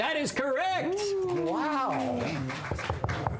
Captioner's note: applause